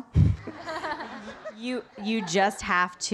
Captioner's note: audience laughing